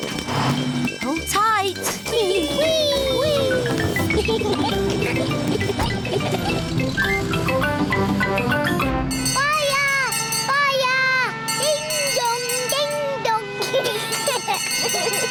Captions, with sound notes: Hold tight. -Whee! -Whee! -Whee! -Whee! (GIGGLING) -(BELL RINGS) -Fire! Fire! -Ding, dong! Ding, dong! -(CHILDREN GIGGLING)